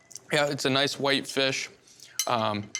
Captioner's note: none